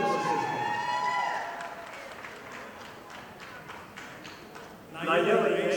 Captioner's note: audience applauding